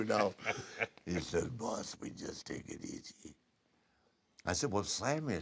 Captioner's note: laugh